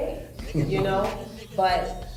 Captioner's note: man chuckles